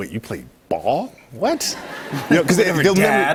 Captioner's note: laughter